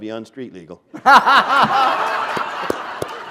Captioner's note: laughter